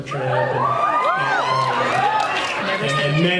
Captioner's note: cheers